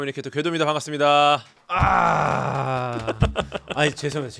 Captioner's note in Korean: 뜨거운 박수